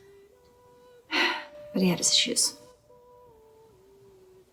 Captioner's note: exhales